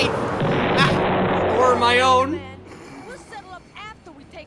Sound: death knell

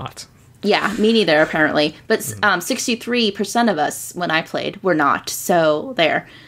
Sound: laughter

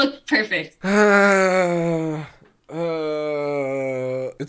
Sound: groans

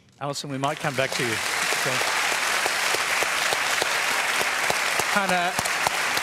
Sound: applause

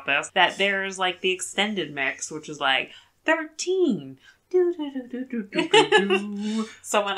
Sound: sings song; laughs

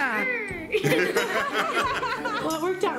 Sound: all laugh

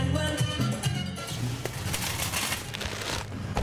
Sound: cart screeching

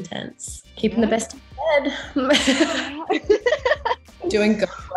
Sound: laughter

